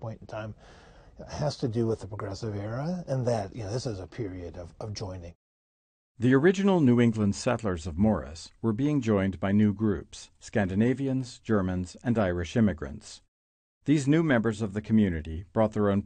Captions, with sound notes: at this point in time, has to do with the progressive era, and that this is a period of joining. - [Voiceover] The original New England settlers of Morris were being joined by new groups. Scandinavians, Germans, and Irish immigrants. These new members of the community